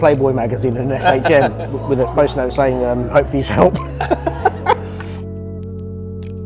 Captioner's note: laughs